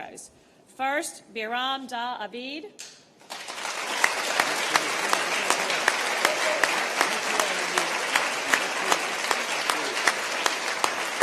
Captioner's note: applause